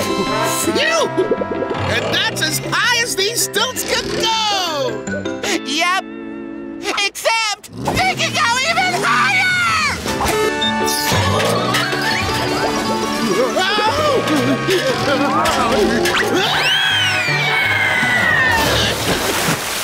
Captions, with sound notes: Phew! And that's as high as these stilts can go! Yep, except... they can go even higher! Whoa! [screaming]